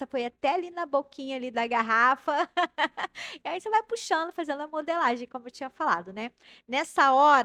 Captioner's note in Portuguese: risadas